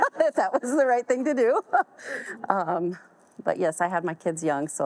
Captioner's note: all laugh